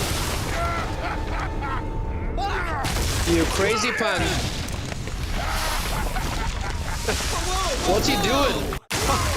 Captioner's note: screaming